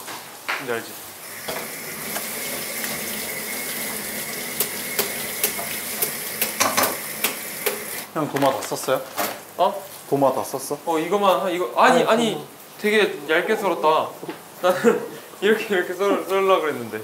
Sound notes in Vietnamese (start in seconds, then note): 12.2 Hoảng hốt